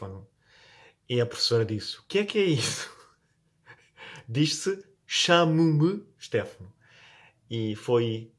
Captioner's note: in BR PT; in EU PT